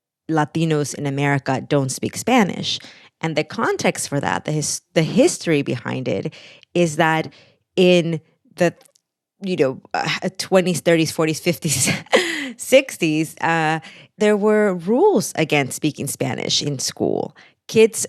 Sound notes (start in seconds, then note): 11.8 laughter